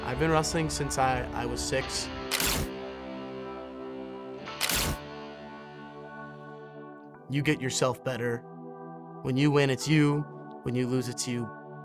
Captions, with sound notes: - I've been wrestling since I was six. (camera clacking) You get yourself better. When you win it's you, when you lose it's you.